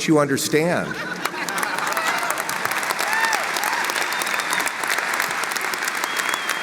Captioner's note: audience laughs and applauds